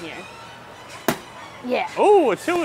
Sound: balloon popping

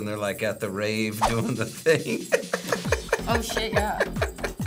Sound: laughs

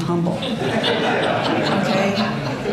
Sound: audience laughs

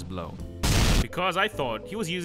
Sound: dramatic explosion

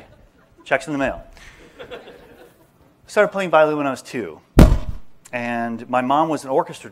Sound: laughter

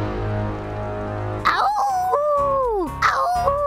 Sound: intense music; Buttercup howls

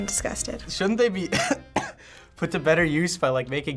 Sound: gagging

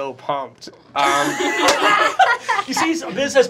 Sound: laughter

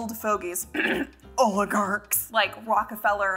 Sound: coughs

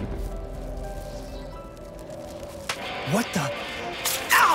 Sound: wind blowing

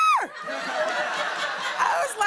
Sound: laughter

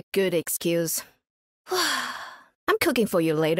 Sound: sigh

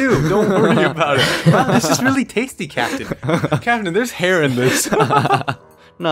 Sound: all of them giggle; laughter

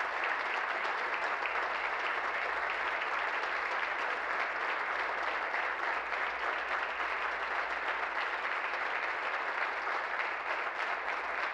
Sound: applause

